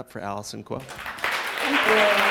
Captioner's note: clapping